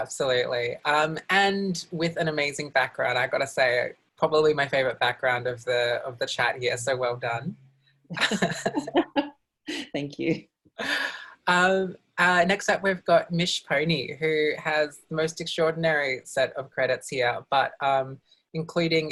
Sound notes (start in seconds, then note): 8.2 laughs